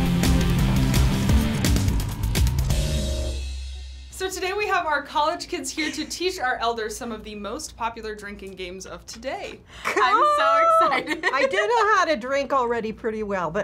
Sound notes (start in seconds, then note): 0.0 industrial intro; 9.9 laughs